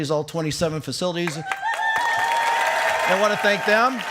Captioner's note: cheering and applause